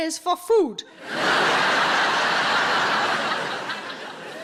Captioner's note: audience laughing